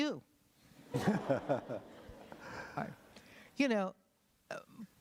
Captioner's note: laughter